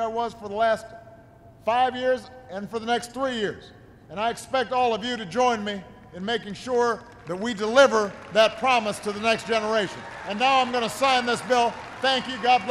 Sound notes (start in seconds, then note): 9.8 applause